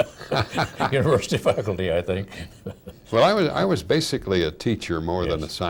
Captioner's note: laughing